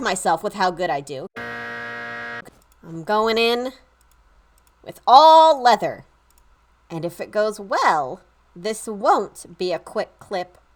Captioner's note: incorrect buzzer noise